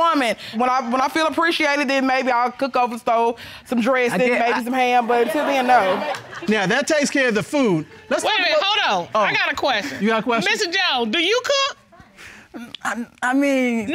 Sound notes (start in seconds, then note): 5.6 indistinct chatter